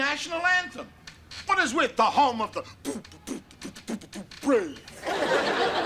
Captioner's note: beat boxing; audience laughter